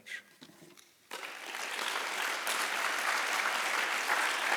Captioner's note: applause